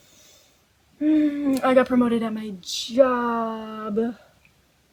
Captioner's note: sigh